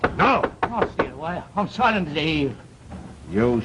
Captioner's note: muffled by knocking